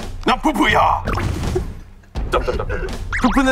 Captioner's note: the original writer can't stop laughing